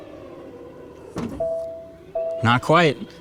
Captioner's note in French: l'alarme bipe doucement